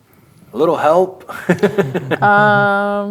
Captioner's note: laughing